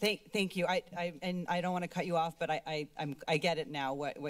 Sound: none

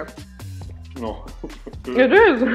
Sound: laughs

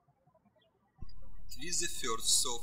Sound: birds chirping

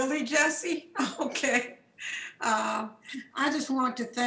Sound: chuckles

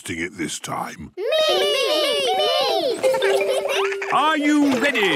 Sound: laughter

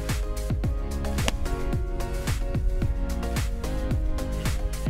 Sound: golf club wack

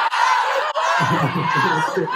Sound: laugh

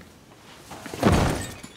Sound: thud

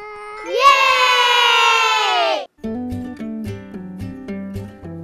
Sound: children yelling; soft upbeat music

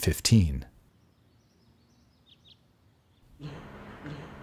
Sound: silence

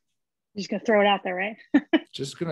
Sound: laughs

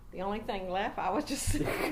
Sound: laughs

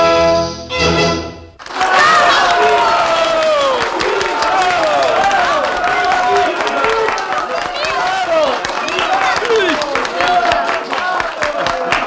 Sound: applause

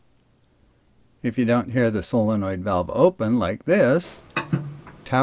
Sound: clunk

